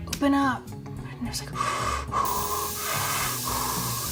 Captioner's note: inhaling